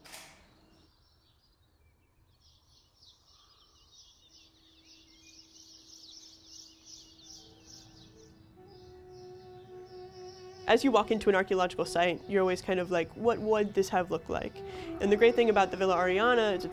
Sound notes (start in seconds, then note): 1.0 birds chirping; 8.1 soft pensive music